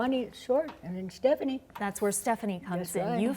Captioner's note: none